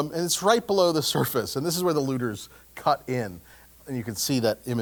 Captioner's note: laugh